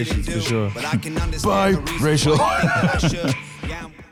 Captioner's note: laughs